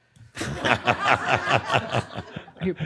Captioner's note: laughter